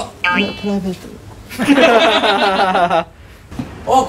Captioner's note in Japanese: スタッフ 笑い